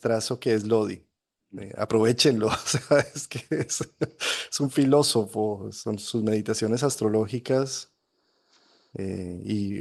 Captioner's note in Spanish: risas